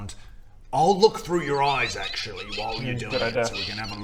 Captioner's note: chaotic evil rat squeaks